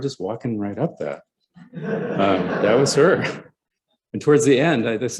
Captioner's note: laughter